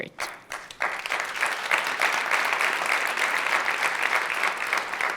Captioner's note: audience applauds